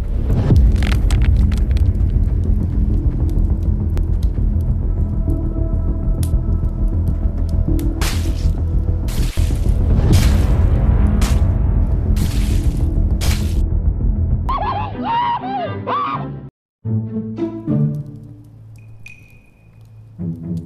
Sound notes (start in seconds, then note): 0.2 dramatic music; 8.0 chopping sound; 14.5 thom and jerry scream; 16.8 funny music